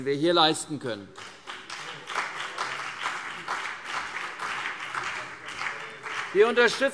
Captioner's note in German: Beifall CDU und BÜNDNIS 90/DIE GRÜNEN